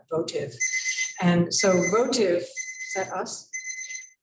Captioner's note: alarm chiming